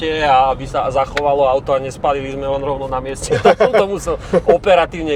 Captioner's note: laughs